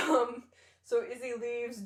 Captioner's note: laughter